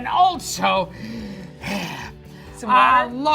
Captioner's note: gasps